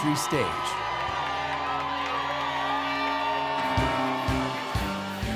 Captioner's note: people cheering; upbeat music